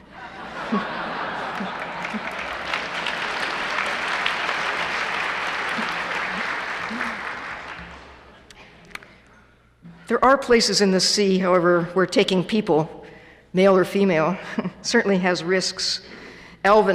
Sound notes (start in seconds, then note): 1.3 applause